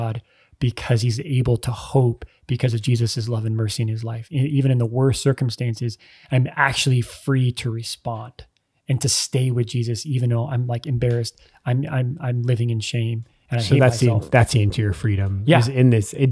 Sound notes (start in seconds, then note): none